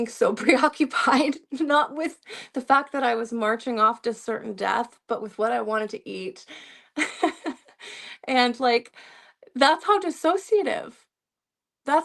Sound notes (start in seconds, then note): 7.0 laughter